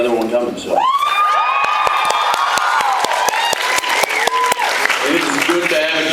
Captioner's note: cheers, applauds